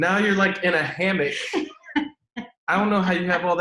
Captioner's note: laughs